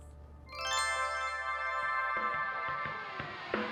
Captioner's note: crystal chimes; energetic upbeat music